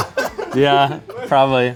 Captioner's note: laughs